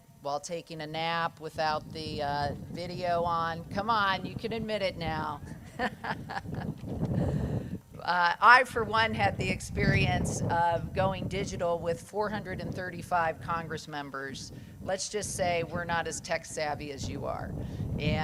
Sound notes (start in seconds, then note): 5.4 laughs